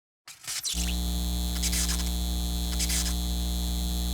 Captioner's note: electricity crackling